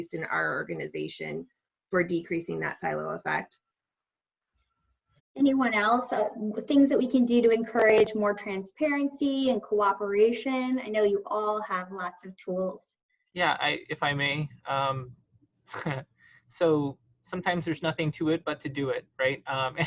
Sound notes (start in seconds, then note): 15.7 chuckles lightly